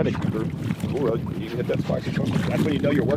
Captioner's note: splashing